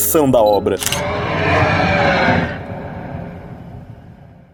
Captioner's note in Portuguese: rugido